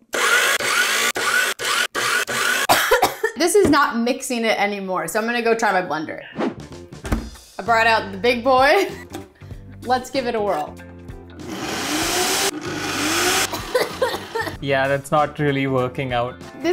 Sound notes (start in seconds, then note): 0.0 speaking in Hindi; 0.0 mixer whirring; 2.6 coughing; 11.4 blender whirring; 13.4 coughing